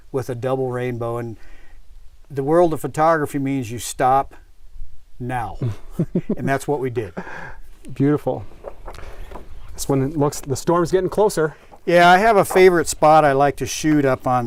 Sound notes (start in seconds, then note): 5.6 laughs